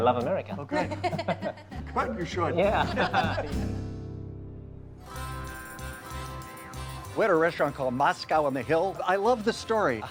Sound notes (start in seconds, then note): 2.7 laughing; 5.1 lighthearted music